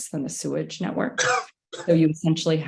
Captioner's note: participant coughs